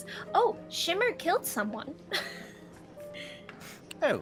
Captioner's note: laughs